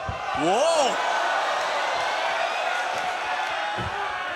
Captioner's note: crowd cheers